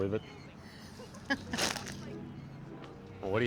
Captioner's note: laughing